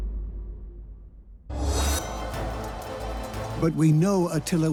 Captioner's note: sound of metal